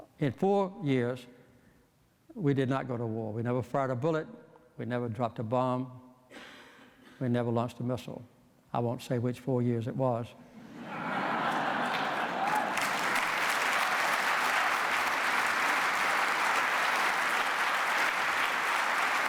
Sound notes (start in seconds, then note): 10.6 laughter